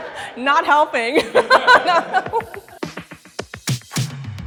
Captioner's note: laughs